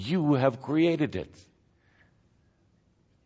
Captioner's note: none